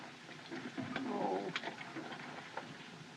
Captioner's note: Buck Whimpers